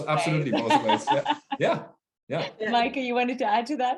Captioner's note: laughing